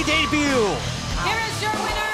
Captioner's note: bell ringing